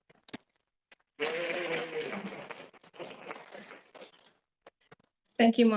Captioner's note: audience cheering and applauding